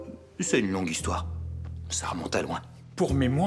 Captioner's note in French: none